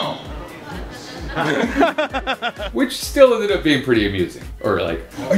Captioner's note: laughter